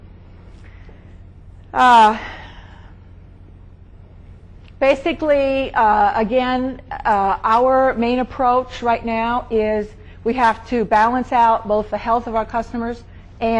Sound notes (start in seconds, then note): 2.0 speaker sighing